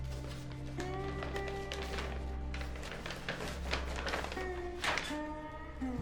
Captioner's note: envelope rustling